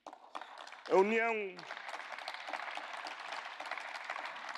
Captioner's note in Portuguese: Aplausos